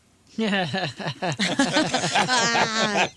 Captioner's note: laughing